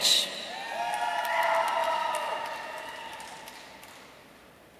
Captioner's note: audience cheering